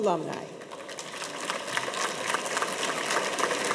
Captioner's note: audience applauds